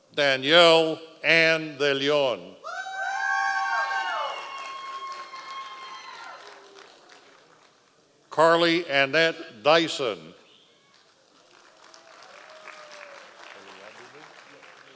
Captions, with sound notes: Danielle Anne de Leone. (members of the audience cheering) Carly Annette Dyson. (audience applause)